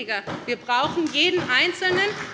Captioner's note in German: Beifall bei der SPD